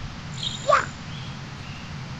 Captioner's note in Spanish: Grito de Mario